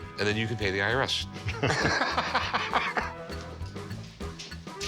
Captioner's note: laughter